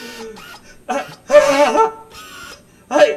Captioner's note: gasp; startled shriek